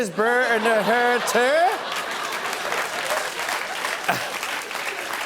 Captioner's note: laughter and applause